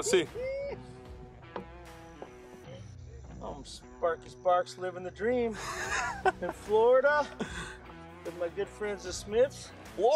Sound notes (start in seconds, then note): 0.8 laughter; 2.1 slow rock music